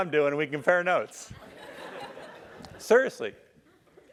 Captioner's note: laugh